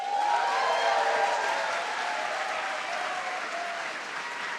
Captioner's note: audience applauding